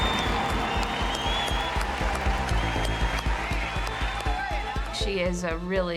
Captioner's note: crowd cheering and clapping; upbeat music